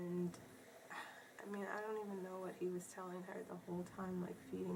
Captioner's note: sighs